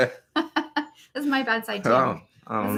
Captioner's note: laughs